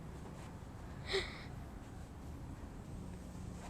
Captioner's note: gasping